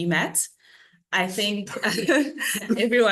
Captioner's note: panellists laughing